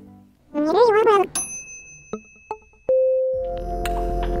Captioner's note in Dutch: bel klinkt